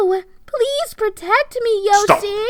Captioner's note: still sarcastic; so sarcastic it hurts